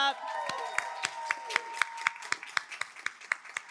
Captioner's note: applause